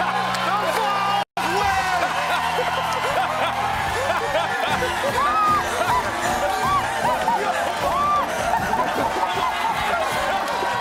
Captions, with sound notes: "THE VOLS WIN!!!" "HAHA!!!" (Laughing) [Applause]